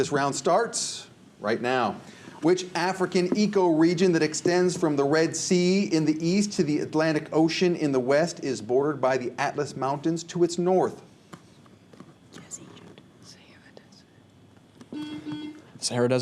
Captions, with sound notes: All right, this round starts right now. Which African ecoregion, that extends from the Red Sea in the East, to the Atlantic Ocean in the West, is bordered by the Atlas Mountains to its North? (whispers) (buzzer)